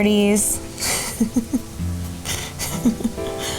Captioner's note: laughing